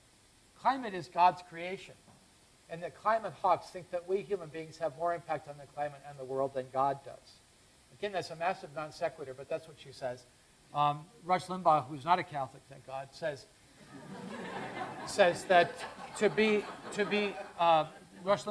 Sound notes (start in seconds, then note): 13.8 laughter